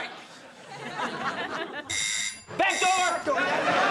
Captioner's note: doorbell buzzes